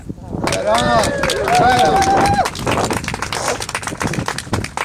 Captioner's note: right on -- applause/cheers